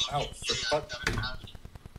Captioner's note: radio noise in background